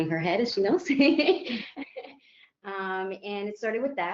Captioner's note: chuckles